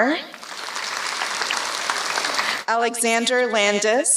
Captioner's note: applause